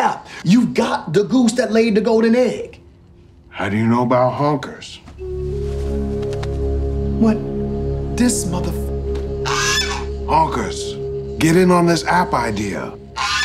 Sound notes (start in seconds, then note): 5.5 mystical music; 9.4 goose squawks; 13.1 goose squawks